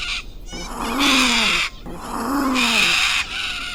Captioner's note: bird screeching; cat hissing